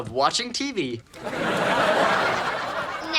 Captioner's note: audience laughing